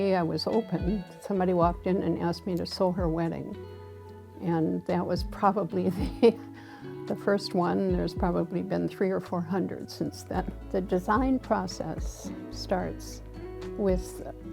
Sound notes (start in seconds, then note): 5.8 chuckles